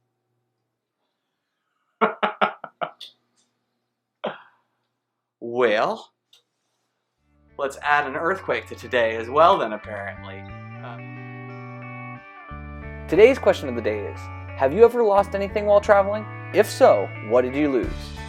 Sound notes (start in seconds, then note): 2.0 laughing